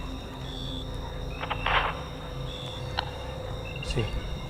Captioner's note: sounds on the radio